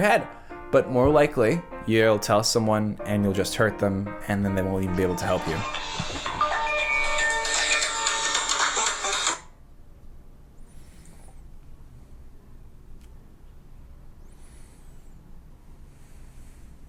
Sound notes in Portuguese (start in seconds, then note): 0.0 música de palhaço; 4.2 música de palhaço; 5.6 celular tocando